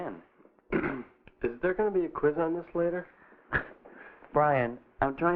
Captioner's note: clearing throat